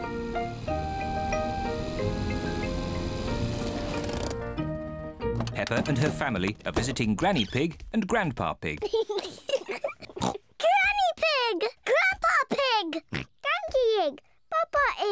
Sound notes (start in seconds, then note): 8.8 kids giggle